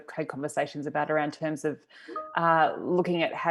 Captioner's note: computer notification rings